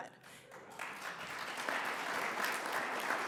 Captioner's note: audience applauds